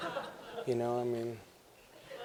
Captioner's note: laughter